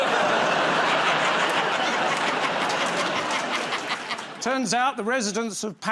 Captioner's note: laughter